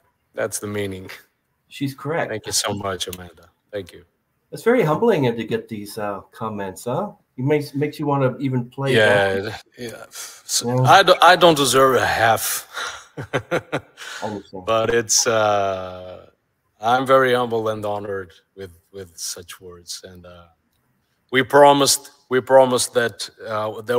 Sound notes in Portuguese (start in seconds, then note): 12.8 Risada